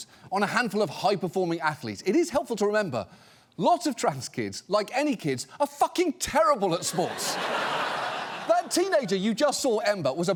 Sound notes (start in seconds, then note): 6.8 studio audience laughs